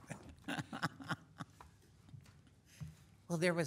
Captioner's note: chuckling